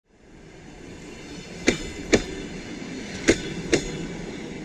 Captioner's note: train sound